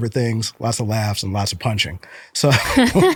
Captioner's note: laughter